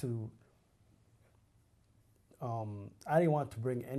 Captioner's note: pauses for 3 seconds